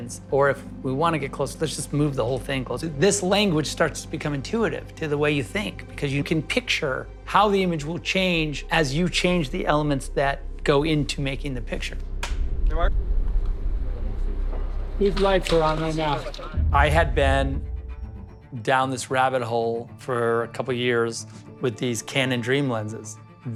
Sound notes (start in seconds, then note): 12.2 clapperboard snaps